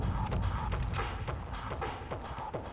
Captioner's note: gun firing